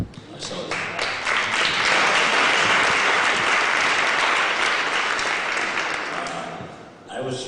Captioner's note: applause